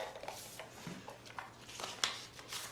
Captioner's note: paper shuffling